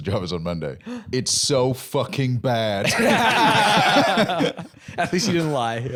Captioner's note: all laughing